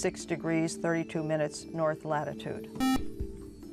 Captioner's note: buzzer